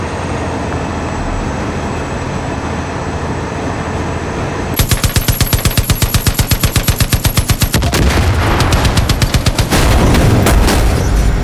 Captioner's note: gunfire